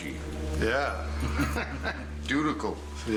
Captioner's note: laughing